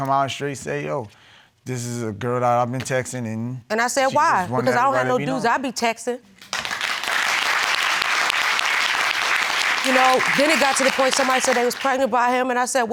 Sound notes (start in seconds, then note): 6.4 audience applauding